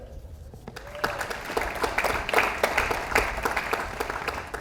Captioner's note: audience applauds